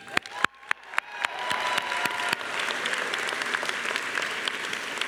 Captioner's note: all cheering and applauding